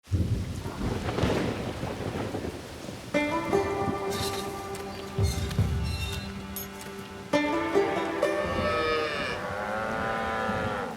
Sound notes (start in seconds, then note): 0.0 thunder cracks; 1.0 rain patters; 3.8 mud squelches; 5.1 gate squeaks; 8.4 cattle low